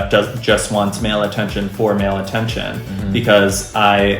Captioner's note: 'um-hmms' in approval